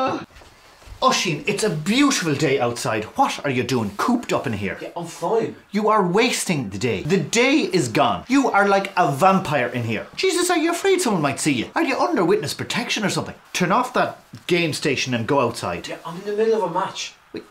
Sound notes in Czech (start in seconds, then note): none